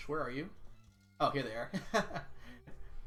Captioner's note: laughs